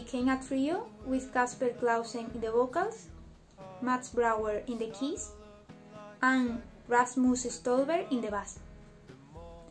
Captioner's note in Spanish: voces